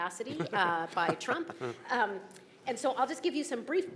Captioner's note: chuckling